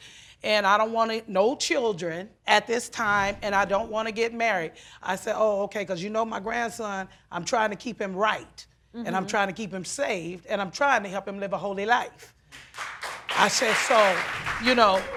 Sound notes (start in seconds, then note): 12.5 audience applauds